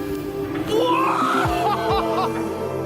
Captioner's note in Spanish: grita y ríe